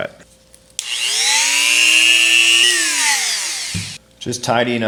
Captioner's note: cutter whirling